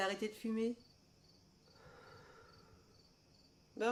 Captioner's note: puffing